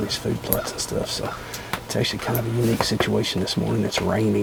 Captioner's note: whispering